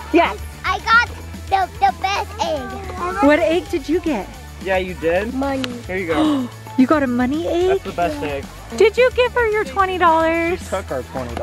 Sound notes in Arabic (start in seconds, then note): 5.6 بهدوء; 7.5 لهيث